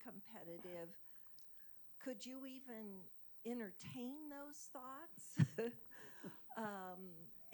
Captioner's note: laughing